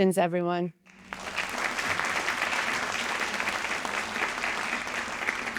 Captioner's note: audience applauding